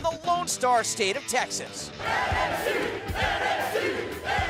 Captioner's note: fans chanting